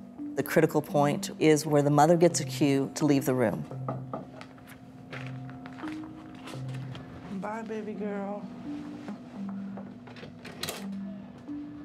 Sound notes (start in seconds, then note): 3.8 knocking on door